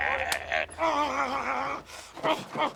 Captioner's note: chuckling; groaning; grunting